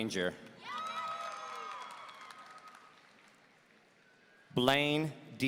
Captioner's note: audience cheering